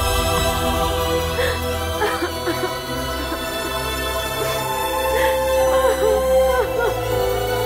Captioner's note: Crying